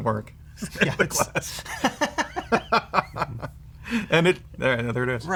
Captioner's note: laughter